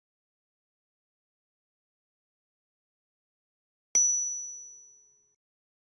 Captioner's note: bell dinging